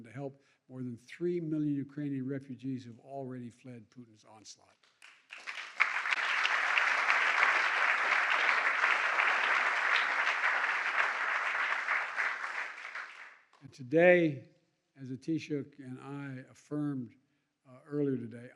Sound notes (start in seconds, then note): 4.8 applause